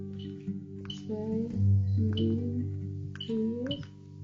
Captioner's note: dials phone